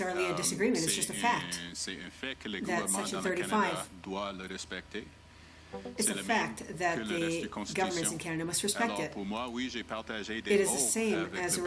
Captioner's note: speaking French